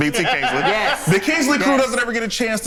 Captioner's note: laughs